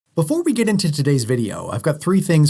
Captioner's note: voiceover